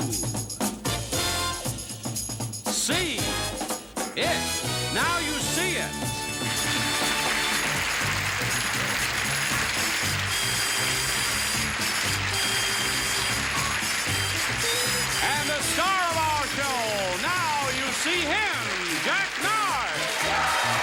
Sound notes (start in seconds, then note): 7.1 applause; 10.8 gameshow music